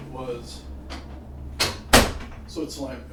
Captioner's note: door clicks shut